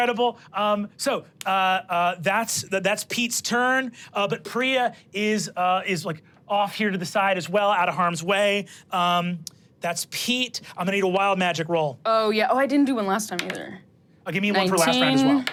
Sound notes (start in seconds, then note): 13.8 dice rolling